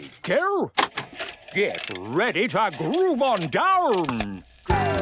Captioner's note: clicks, whirring; disco music plays